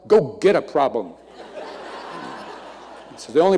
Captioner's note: audience laughing